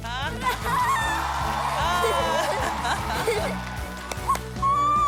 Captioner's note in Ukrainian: оплески